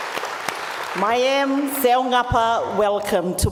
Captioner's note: speaks native language